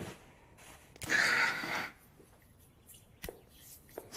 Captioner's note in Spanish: Suspiro